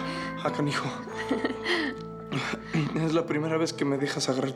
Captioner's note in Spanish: suspiros; risas